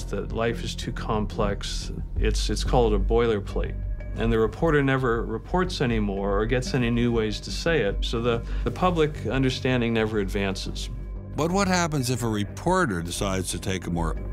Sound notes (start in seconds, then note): none